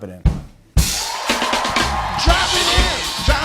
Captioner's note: cheers and applause